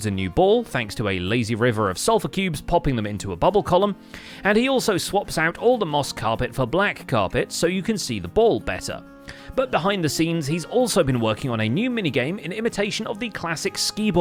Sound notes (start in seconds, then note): none